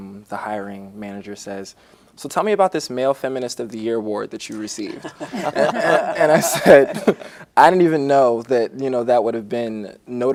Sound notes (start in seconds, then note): 4.8 group laughter